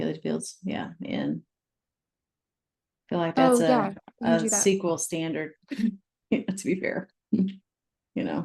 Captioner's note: laughs